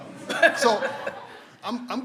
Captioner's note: everyone laughs